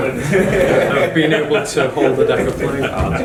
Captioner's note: laughing